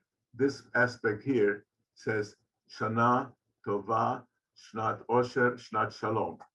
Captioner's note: speaks in foreign language